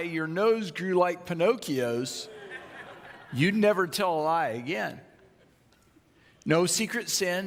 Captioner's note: audience laughing